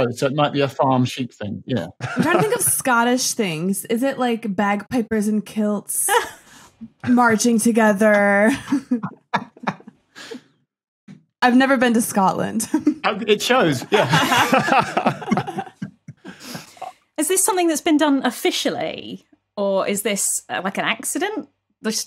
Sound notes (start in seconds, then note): 8.6 group snickering; 14.5 group laughing